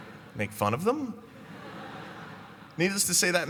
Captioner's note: laughter